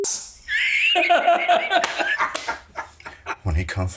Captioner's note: Siegmund laughing